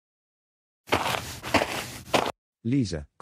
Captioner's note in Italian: FX - Footsteps - On Multiple Dirt - Walk